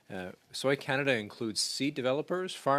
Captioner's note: speaking French